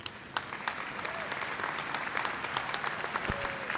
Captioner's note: applause